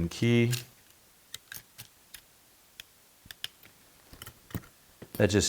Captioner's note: metal clattering